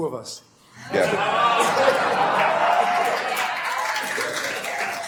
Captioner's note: attendees laughing